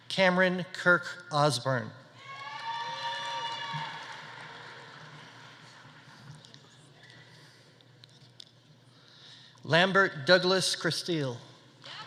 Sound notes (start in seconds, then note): 2.2 audience cheering; 2.4 audience applauding